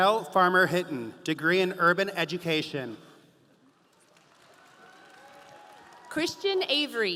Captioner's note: audience applauding